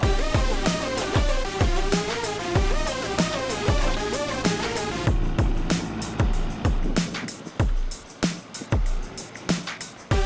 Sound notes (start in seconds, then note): 0.0 techno music; 5.7 construction noise